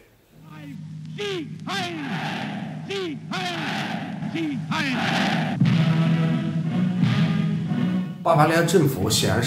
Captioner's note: cheers and applause